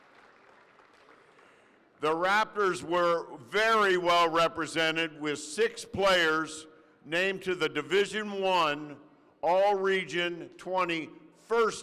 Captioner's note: applause